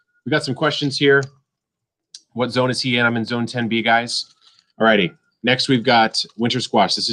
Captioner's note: none